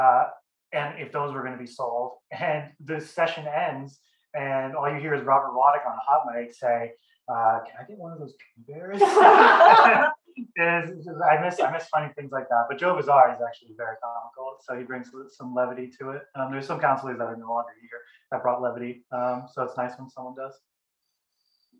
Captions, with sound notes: and if those were going to be sold and the session ends and all you hear is Robert Waddick on a hot mic say "Can I get one of those gummy bears?" [LAUGHING] And I miss funny things like that. But Joe Vizard is actually very comical. So he brings some levity to it. There's some councillors that are no longer here that brought levity. So it's nice when someone does.